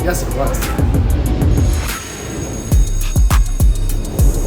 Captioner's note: bell ringing